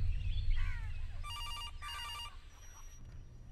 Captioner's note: Phone ringing